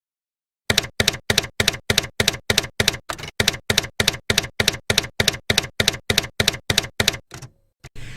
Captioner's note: typewriter keys clacking